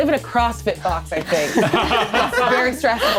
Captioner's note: all laughing